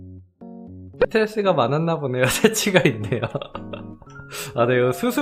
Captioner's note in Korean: 웃음